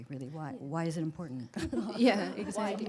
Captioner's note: laughter